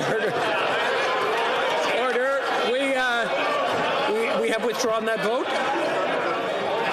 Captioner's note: crowd Noise